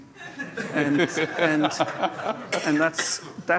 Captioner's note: laughter